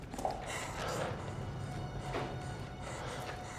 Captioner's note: all panting; ominous music